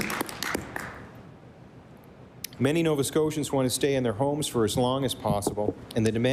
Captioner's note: applause